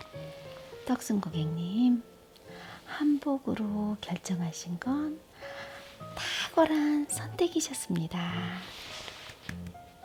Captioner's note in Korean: 짝짝짝